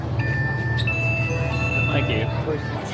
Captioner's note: beeping